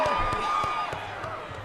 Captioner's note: cheers